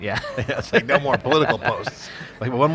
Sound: laughs

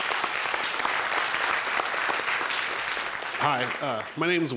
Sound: applause

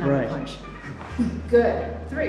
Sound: Tony grunting

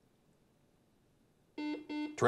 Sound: buzzer beeps

